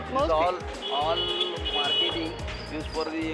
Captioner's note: beeping